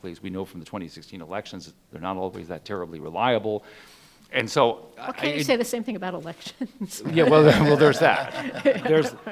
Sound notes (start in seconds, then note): 6.9 laughing; 7.0 panel laughing